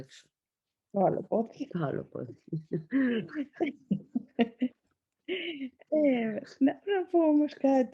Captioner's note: laughs